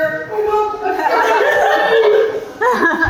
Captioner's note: Jack, muffled